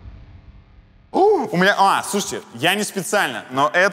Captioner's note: gasps